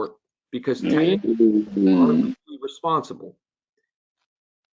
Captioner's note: static interference